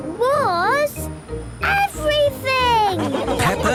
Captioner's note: laughing